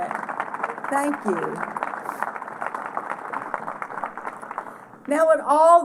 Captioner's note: applause